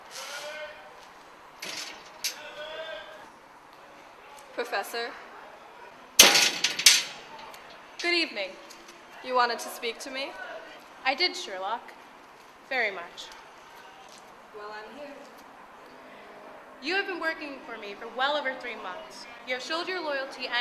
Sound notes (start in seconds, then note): 0.0 shouting in distance; 1.6 metal door opening